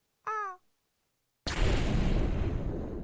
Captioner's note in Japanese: 爆発音